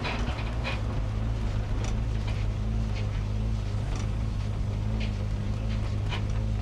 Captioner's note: tram creaks; engine whirs